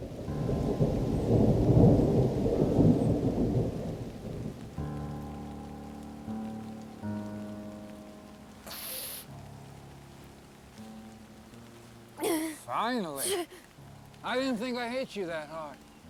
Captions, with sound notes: (thunder rumbling) (tense music) (Mackenzie gasps) - Finally. I didn't think I hit you that hard.